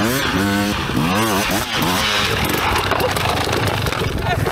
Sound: engine revving

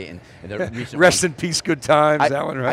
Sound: laughing

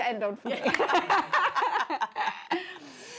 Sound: all laughing

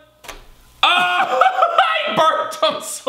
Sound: laughing

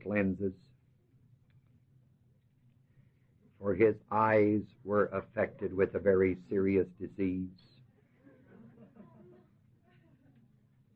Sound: laughter

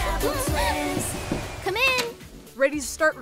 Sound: Michael knocking

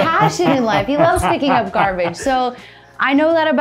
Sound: laughing

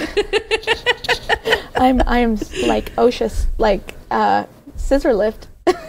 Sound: laughing

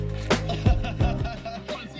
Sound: laughs

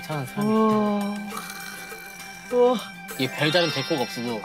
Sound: exclaiming

